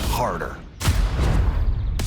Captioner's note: boom!